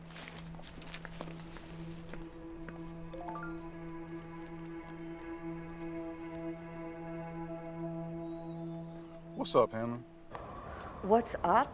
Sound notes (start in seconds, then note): 3.2 phone notification beeping; 6.1 tense music